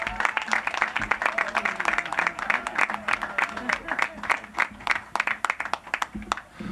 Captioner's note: applause